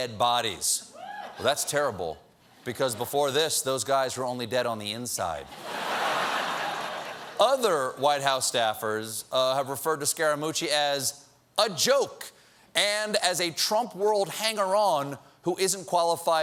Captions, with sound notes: THAT'S TERRIBLE. BEFORE THIS, THOSE GUYS WERE ONLY DEAD ON THE "INSIDE." ( LAUGHTER ) OTHER WHITE HOUSE STAFFERS REFER TO SCARAMUCCI "AS A 'JOKE' AND AS A TRUMP-WORLD 'HANGER-ON' WHO ISN'T QUALIFIED FOR THE JOB."